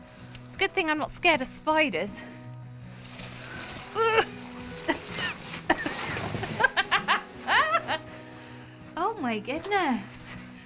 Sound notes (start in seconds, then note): 5.6 laughing